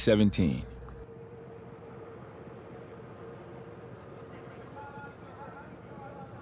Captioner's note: cameras click; tense music